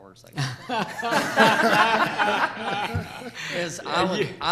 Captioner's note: all laughing